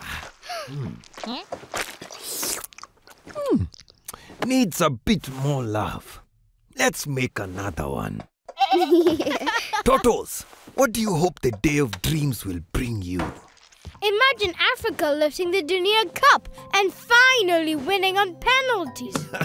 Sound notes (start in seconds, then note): 0.4 Sema gasping; 8.5 bleating, laughing